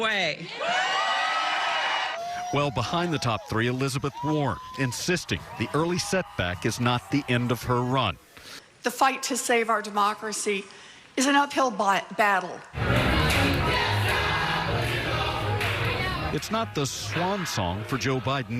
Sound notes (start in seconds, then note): 4.4 cheering and applause